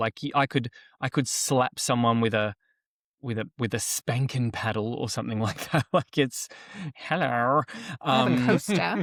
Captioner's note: laughs